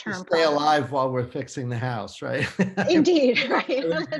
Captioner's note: laughs